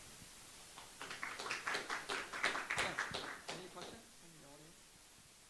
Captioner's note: audience clapping